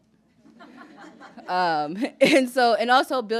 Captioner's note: laughter